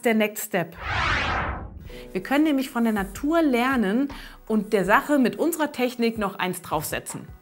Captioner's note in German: Soundeffekt